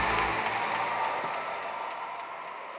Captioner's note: applause